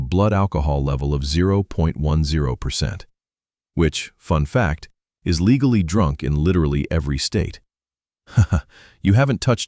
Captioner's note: laughs